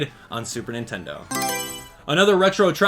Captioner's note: Mario Selection Sound